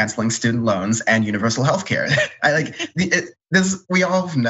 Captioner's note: laugh